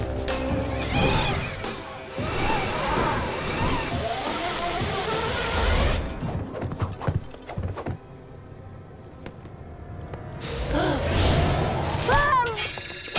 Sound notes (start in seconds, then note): 10.5 gasps